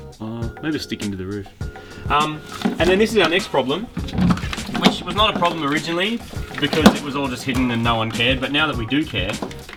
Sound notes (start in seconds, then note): 3.5 clattering; 5.7 clattering